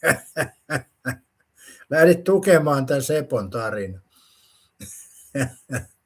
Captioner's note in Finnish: naurua; naurua